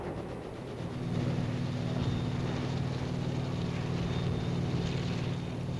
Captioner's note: booming; helicopter chopping